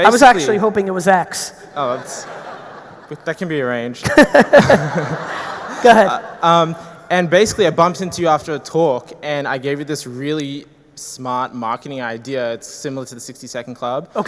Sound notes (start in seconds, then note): 4.0 all laughing